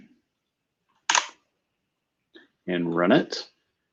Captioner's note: typing